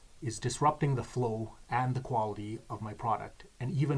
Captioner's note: none